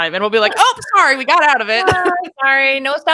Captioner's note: laughing